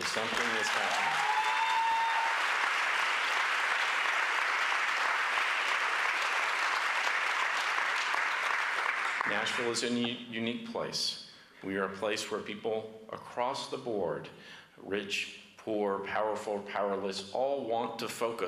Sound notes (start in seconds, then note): 4.3 applause